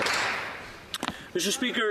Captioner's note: some Applause